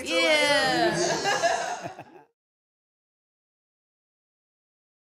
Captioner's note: audience laughing